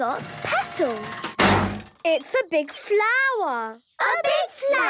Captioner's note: crane beeping